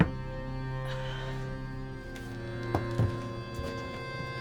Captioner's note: suspenseful music continues; Claire sighs